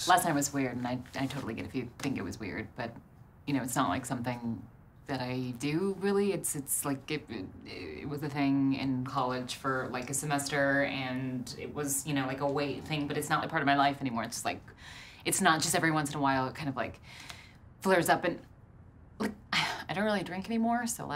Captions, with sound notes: Last night was weird. And I- I totally get it if you think it was weird. But... You know, it's not like something... That I... Do really. It's- It's like... [stutters] It was a thing in college for like a semester and it was, you know, like a weight thing but it's not like a part of my life anymore. It's just like.... It's not just like every once in a while. It kind of... Flares up and... Like... I don't really drink anymore,